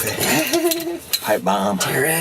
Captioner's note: laughs